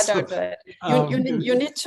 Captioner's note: laughs